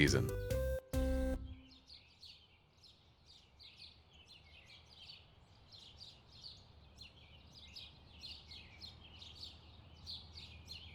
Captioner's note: birds softly chirping